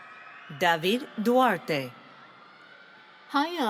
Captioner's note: none